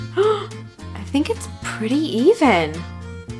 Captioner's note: gasps